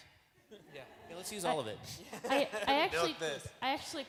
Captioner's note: laughs